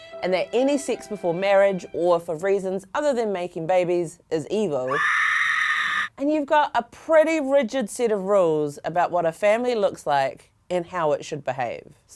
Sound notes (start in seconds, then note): 4.8 screaming